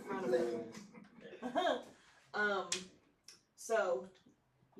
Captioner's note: laughter